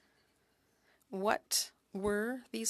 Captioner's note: speaking French